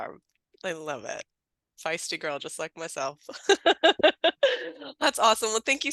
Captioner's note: laughing